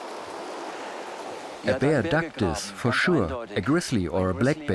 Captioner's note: in German